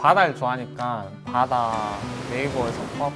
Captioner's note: ocean background